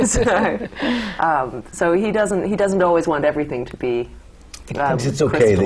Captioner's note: laughter